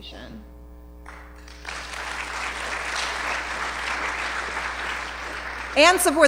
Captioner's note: applause